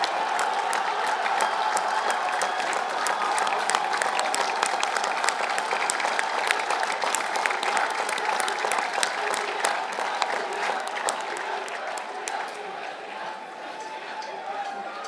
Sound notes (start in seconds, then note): 0.0 laugh; 1.7 applause; 10.4 chanting